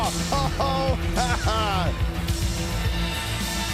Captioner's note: JBL laughs